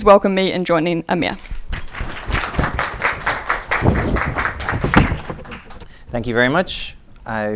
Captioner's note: applause